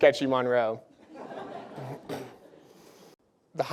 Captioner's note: laughter